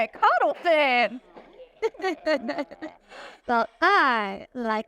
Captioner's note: laughs